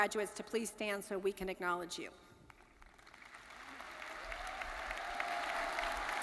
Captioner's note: audience cheering